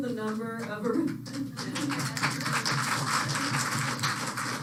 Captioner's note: applause